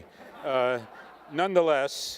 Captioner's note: attendees laughing